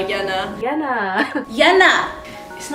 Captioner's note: laughs